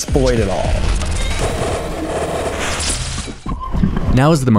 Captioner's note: TV static